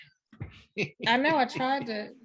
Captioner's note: laughs